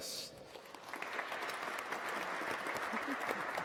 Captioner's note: applause